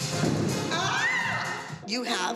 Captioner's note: shrieks